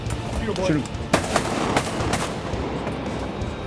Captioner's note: gun shots